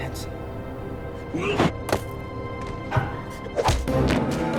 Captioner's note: Paul grunts